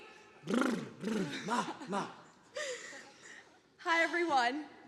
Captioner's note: blows raspberry